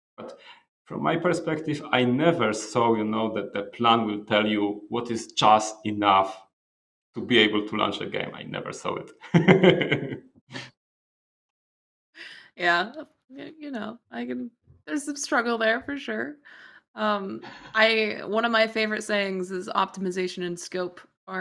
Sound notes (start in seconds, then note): 9.2 laughs